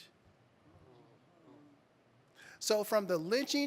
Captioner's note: audience groaning